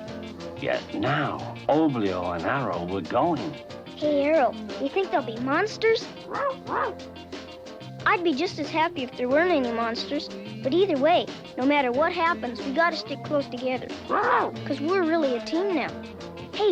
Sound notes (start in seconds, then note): 6.0 Arrow barks